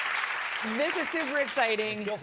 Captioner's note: cheers and applause